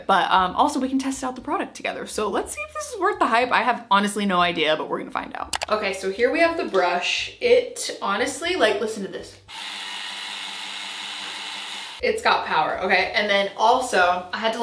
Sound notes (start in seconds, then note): 5.5 mouse clicks; 9.5 brush whirring rapidly